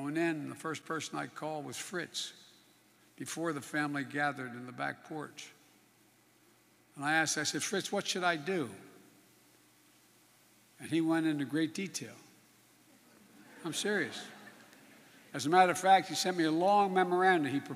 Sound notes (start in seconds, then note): 13.3 laughter